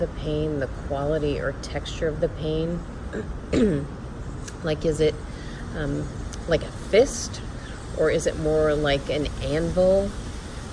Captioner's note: clears throat